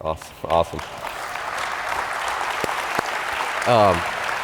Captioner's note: applause